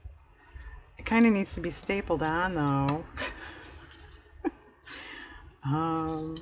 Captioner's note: laughs